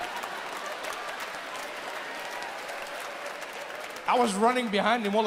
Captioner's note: audience laughs and applauds